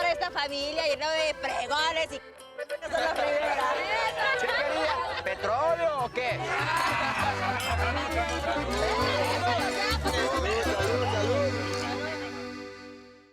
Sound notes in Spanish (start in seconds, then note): 4.1 Risas y comentarios; 6.3 Carcajadas; 7.4 Chocan las copas